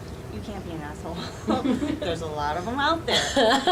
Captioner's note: laughing